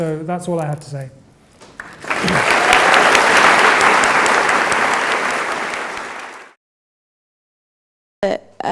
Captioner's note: applause